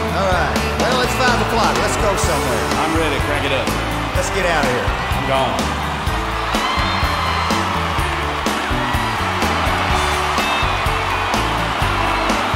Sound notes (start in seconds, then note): 6.8 crowd cheering